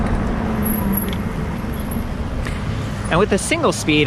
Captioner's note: brake squeaks